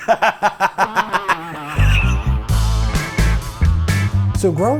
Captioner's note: laughs